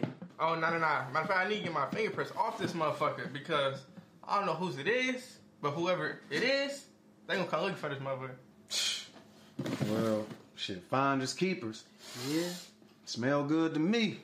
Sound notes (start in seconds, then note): 8.6 scoffs; 12.0 L sniffs